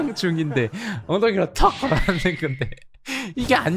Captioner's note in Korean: 으앜ㅋㅋㅋㅋㅋ